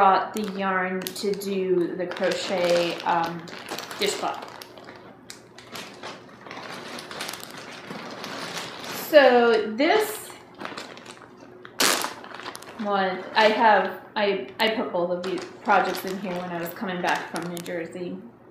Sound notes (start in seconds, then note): 5.5 sound of rustling bags; 10.1 sound of Ziploc bag opening